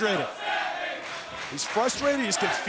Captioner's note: crowd chants "Let's go, Sami"